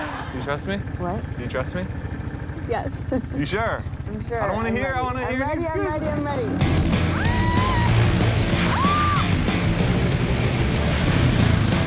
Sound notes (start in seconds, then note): 7.0 intense music; 8.6 screaming